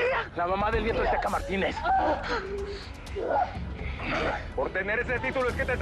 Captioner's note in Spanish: Quejidos